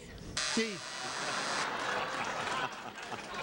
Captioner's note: buzzer; audience laughs